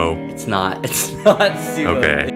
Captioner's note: laughs